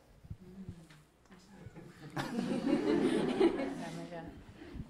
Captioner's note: audience laughing